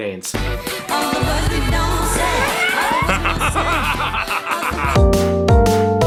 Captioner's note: the laugh of an insane man; relaxed music